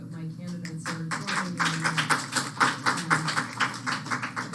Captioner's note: applause